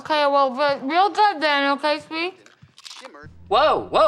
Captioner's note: speaking with mouth full